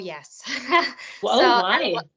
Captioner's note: chuckling